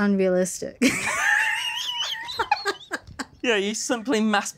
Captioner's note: laughing